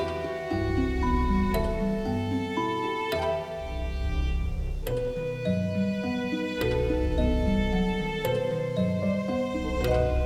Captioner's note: pulsing hum, as if the glowing vines have a heartbeat